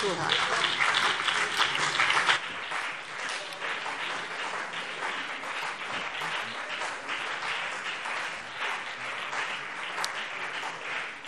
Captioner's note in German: Beifall BÜNDNIS 90/DIE GRÜNEN und CDU